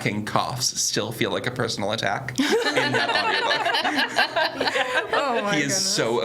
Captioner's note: everyone laughs